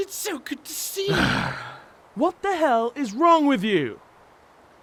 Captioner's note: sighs